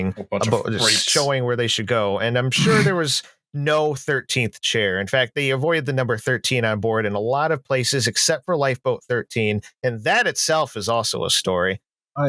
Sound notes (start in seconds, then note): 2.5 snorts